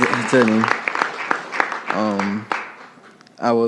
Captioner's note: applause